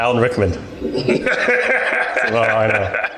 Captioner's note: laughing